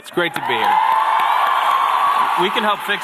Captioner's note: cheers